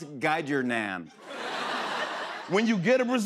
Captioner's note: laughter